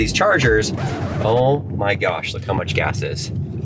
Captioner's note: record scratching